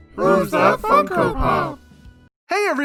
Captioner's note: children's Voices